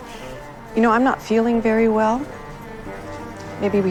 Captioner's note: voiceover